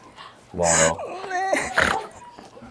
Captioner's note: haha